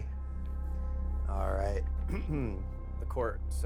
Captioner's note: clears throat